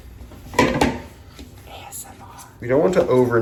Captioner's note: whispers